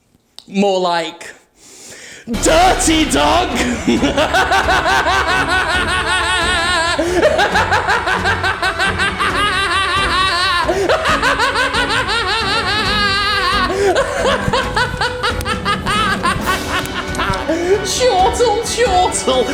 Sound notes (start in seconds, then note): 1.5 inhales; 13.7 buttons jangle as Jim laughs maniacally